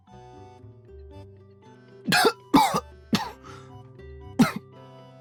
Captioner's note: coughs... Coughs